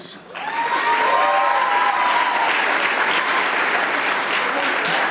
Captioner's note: audience applauding